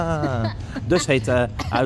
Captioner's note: laughs